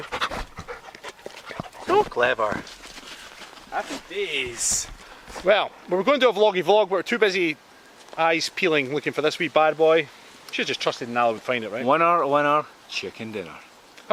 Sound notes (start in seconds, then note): 0.0 dog Panting